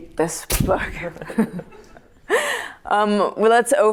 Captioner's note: laughter